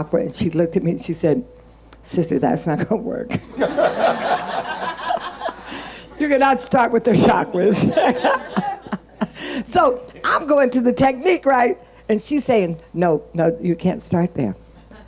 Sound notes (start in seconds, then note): 3.4 audience laughing; 7.6 laughing